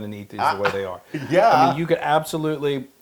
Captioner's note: laugh